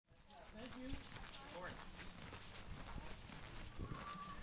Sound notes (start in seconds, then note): 0.1 footsteps